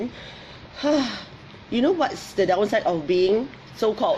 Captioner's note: sighs